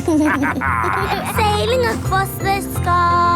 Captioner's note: captain dog and kids laughing